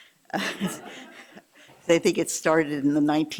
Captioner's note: laughter